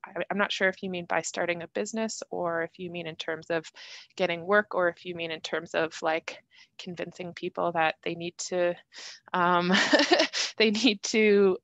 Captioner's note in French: rires